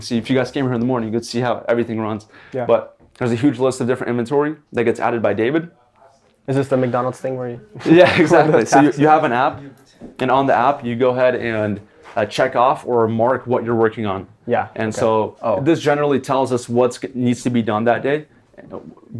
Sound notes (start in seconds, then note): 7.8 laughs